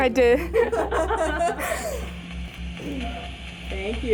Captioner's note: group laughing